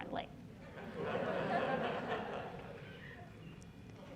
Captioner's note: laughter